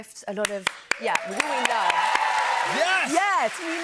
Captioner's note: cheers and applause